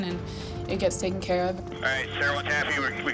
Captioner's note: man Over Radio